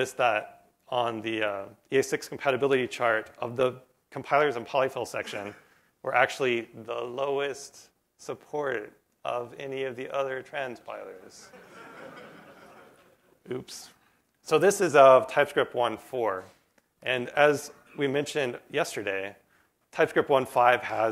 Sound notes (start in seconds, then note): 11.4 laughter